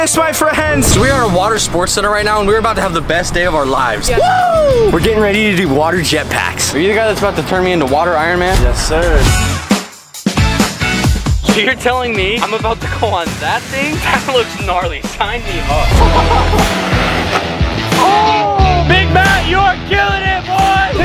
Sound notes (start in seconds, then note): 9.7 catchy music; 17.0 water splashes